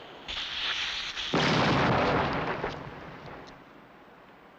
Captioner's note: explosion booms